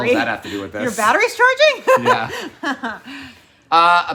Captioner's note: laughing